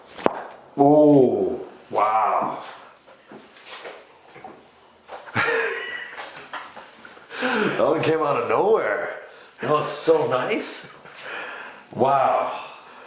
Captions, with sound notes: - Oh, wow. (both laughing) That one came outta nowhere. That was so nice, wow.